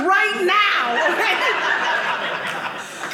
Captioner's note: audience laughing